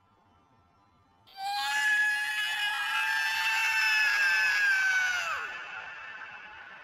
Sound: screams

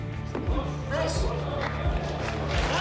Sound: crowd murmuring; crowd applauding

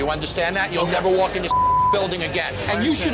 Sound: beep

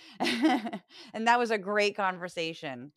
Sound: laugh

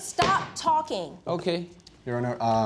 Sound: bangs gavel

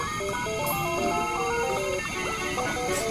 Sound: machine beeping

